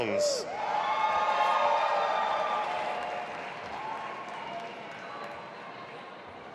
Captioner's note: audience applauding and cheering